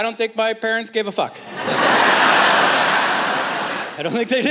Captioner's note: laughter